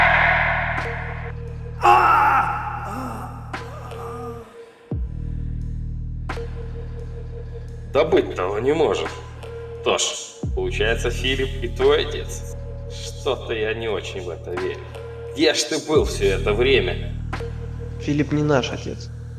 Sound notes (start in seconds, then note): 1.8 screaming